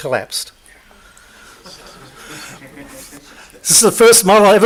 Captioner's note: laughs